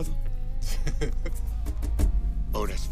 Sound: laughing

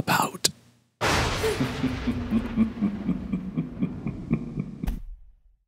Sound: maniacal laughter and thunder!

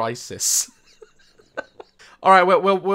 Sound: laughs

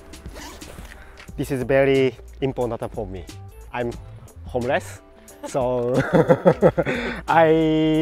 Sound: laughs

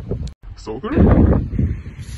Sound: loud wind

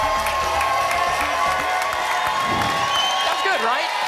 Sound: applause and cheering cont

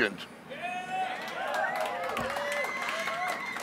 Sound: cheering

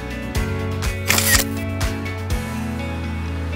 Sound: camera clicks

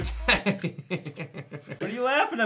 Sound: laughter

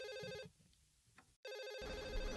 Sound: phone ringing

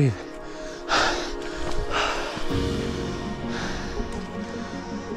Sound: breathing heavily

